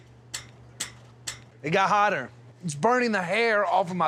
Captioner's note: stomping